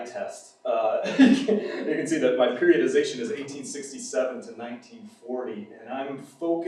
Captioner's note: laughs